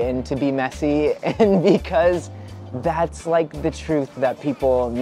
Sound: laughs

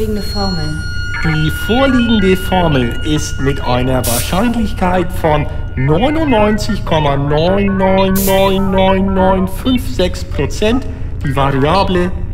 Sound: Irish accent

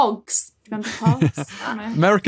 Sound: chuckles

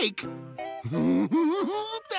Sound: giggling

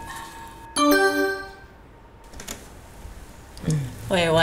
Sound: alert

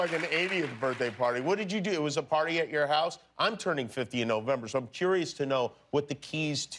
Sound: cheers and applause

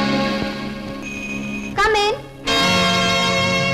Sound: door Bell

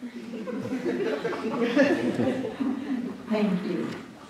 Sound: laughing

